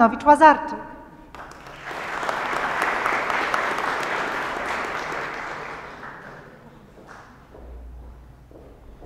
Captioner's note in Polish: oklaski